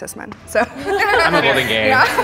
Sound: everyone laughs

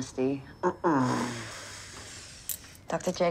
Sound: moaning

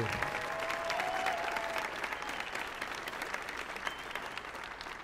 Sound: audience applauding

